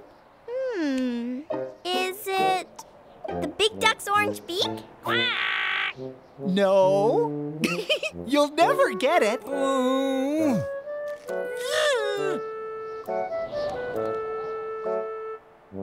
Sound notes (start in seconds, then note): 7.6 giggling; 9.4 moaning/ grumbling